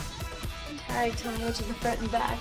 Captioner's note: laughs